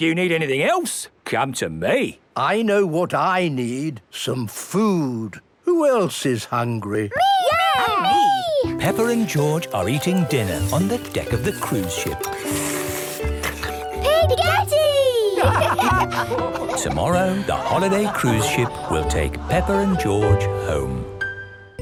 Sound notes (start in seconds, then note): 13.0 slurping; 15.2 all laugh